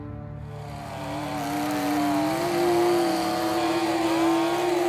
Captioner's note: chainsaw buzzing